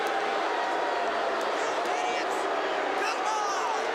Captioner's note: crowd boos